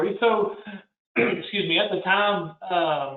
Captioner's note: clears throat